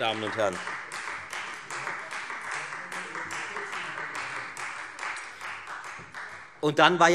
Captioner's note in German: Beifall Freie Demokraten